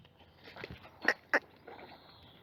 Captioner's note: cluck